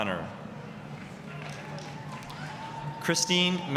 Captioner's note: applause, cheering